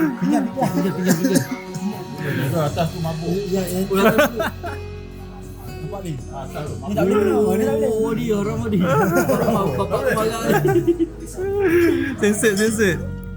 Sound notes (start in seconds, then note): 0.0 laugh; 4.8 laugh; 11.1 laugh